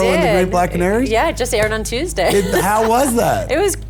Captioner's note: laughs